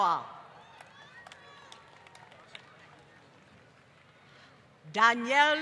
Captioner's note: applause